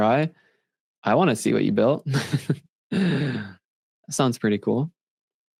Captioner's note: laughs